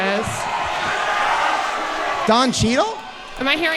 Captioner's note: audience cheering